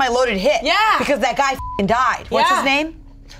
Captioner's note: beep